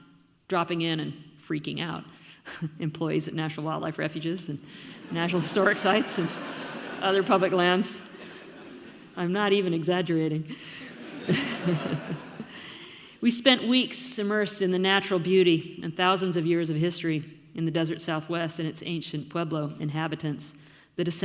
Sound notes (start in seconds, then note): 4.9 audience laughs; 10.8 laughs